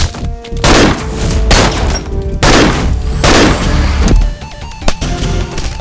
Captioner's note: gunshot